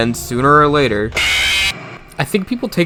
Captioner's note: Chica Jumpscare SFX